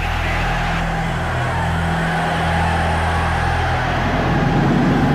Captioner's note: crowd cheering